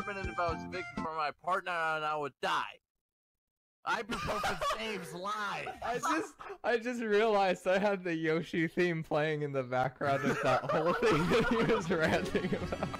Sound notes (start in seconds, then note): 3.9 laugh; 9.9 laughter